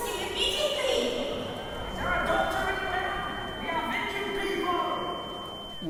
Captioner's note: talking is echoing with high-pitched whine